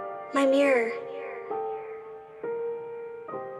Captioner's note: echoes; soft piano music